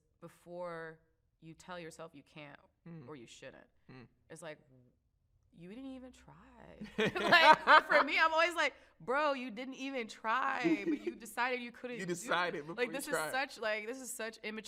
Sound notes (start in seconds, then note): 6.9 both laugh